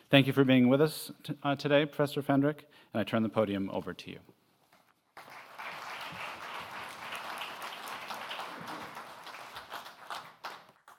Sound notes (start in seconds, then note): 5.1 applause